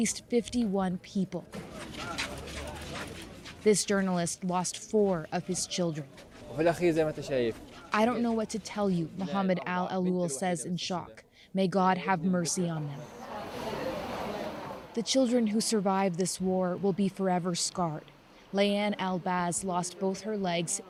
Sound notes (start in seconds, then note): 11.3 speaking alternate language